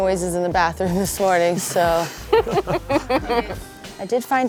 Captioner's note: laughing